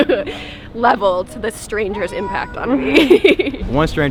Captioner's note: laughs